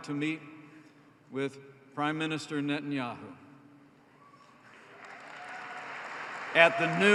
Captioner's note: applause